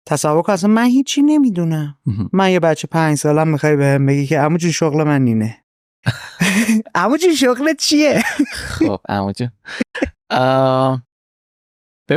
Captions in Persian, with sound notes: تصور کن اصلاً من هیچی نمی‌دونم. من یه بچه‌ی پنج ساله‌م می‌خوای بهم بگی که عمو جون شغل من اینه. عمو جون شغلت چیه؟ (خنده) - (خنده) خب عمو جون.